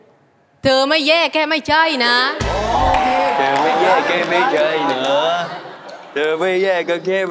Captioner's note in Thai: ปรบมือ